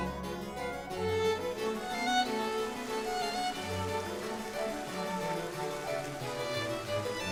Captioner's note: light hopeful music; water whooshing